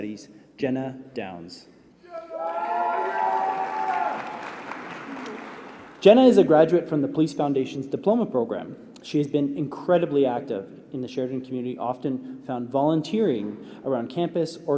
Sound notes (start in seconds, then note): 4.3 applause